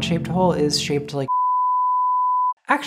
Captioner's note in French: bip